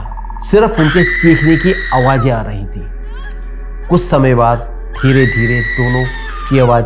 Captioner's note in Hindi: चीखने की आवाज़